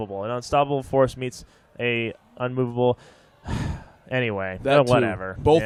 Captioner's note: sighs